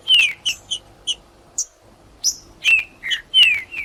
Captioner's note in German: trinca ferro cantando